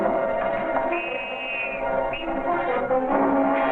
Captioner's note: whistle ringing